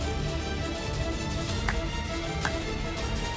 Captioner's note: clapping